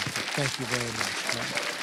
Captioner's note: applause